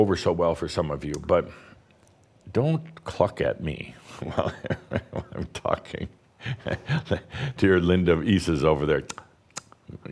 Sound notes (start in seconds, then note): 1.2 clicks her tongue; 4.2 Adamus chuckles